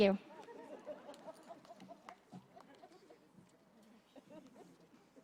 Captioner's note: laughter